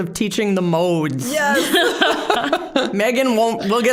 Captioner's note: all laughing